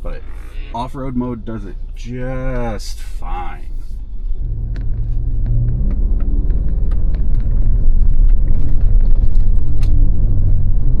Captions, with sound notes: but off-road mode does it just fine. (engine rumbling)